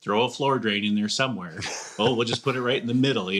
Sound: chuckles

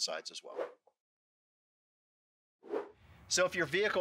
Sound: screen whooshing

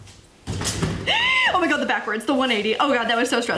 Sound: gasps

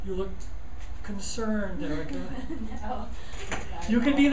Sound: laughing

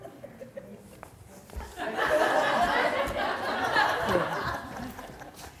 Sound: audience laughter

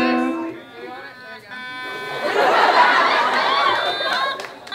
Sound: hums song; electronic sounds

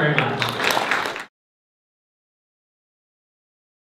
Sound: applause

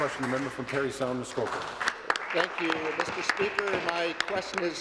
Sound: applause

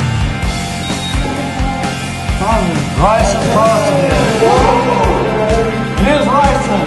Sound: machine Beeps

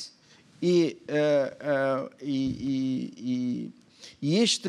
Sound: speaking portuguese

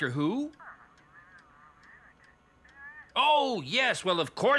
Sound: garbled Phone Voice

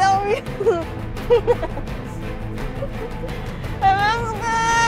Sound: laughs

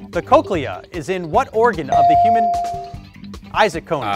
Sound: bell dings

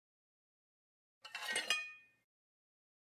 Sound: sound of cutlery

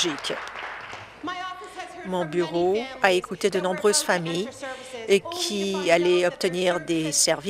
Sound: applause

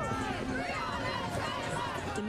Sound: NAT- protest/chant

